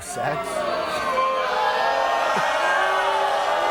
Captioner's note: audience boos